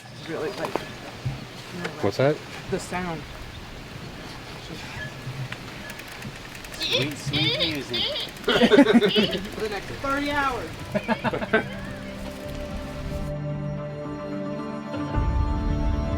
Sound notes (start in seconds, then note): 6.7 imitates squeak; 6.9 group laughs; 12.2 suspenseful orchestra music